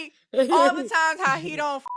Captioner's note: beep